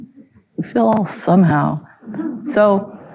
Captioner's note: chuckling